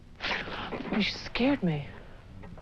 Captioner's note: Diane gasps